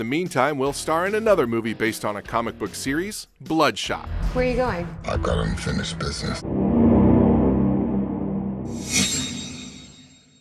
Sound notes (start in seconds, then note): 6.3 dramatic music; 9.0 shimmering swoosh